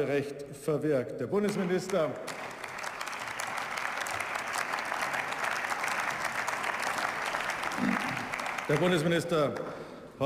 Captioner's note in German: Beifall